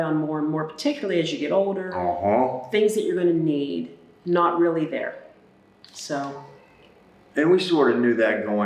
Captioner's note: un-huh